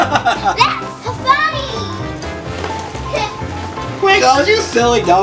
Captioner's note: laughing